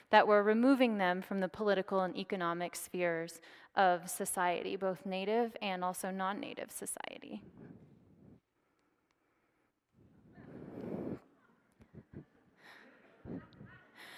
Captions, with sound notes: that were removing them from the political and economic spheres of society, both native and also non-native society. (audience laughs)